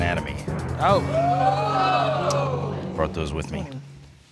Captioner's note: audience exclaims